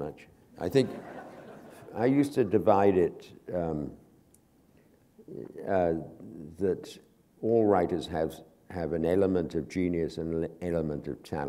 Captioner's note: laughter